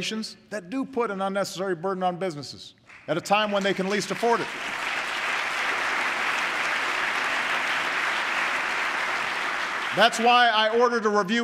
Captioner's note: applause